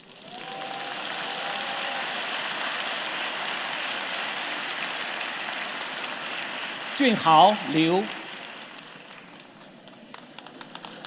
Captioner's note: cheers and Applause